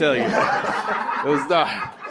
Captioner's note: laughter